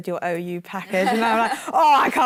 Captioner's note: laughter